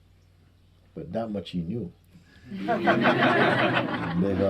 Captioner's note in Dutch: gelach